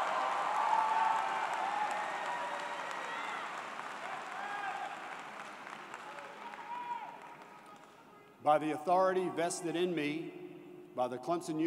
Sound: cheers and Applause

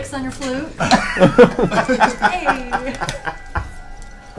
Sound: all laugh

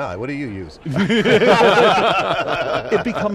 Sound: group laughing

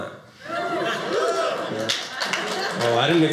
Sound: audience applauding

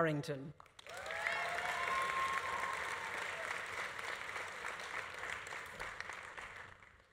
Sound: audience applauding; audience cheering

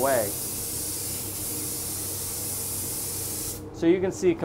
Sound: spray paint sprays

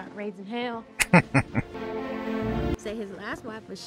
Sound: laughing

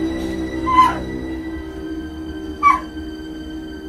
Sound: Lisa crying

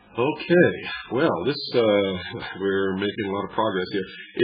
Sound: laughs

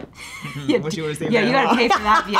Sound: laughs

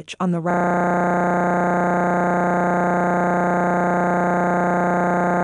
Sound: electronic buzzing

